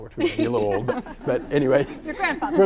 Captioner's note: all laughing